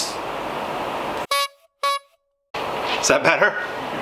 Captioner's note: car horn honking